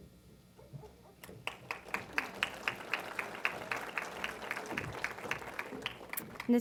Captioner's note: applause